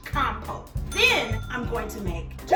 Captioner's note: ding